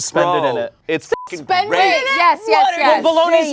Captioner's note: beep